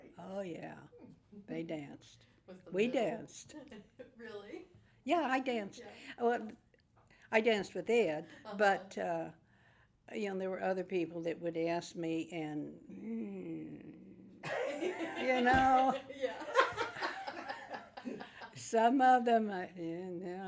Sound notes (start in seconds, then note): 12.9 groans; 18.4 group laughs